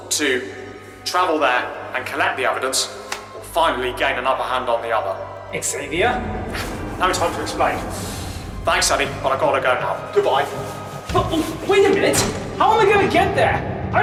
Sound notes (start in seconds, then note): 6.5 tardis engines groaning; 10.5 door opening and closing sounds